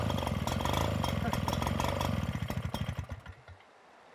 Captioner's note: sound of pump stopping